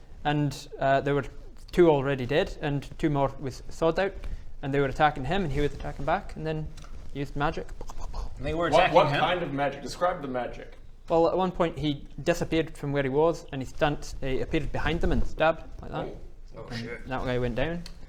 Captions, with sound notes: and er there were two already dead and two more with swords out and they were attacking him and he was attacking back and he used magic *pow pow pow* And they were attacking him? What kind of magic? Describe the magic Well at one point he disappeared from where he was and he he appeared behind them and stabbed, like that Oh shit that guy went down